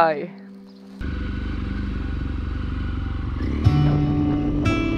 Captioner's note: motorcycle revving